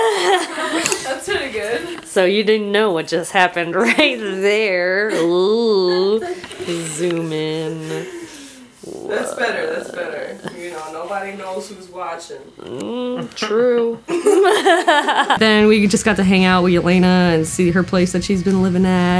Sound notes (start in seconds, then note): 14.1 all laugh